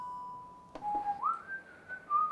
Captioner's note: whistling